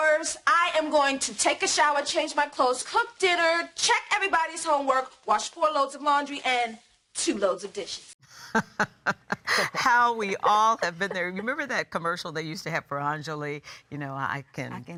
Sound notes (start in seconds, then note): 8.4 laughing